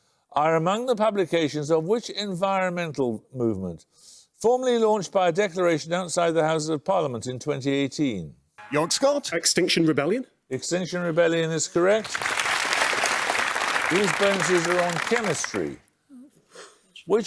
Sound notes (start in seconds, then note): 8.6 buzzer; 11.8 applause